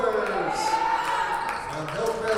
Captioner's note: audience cheers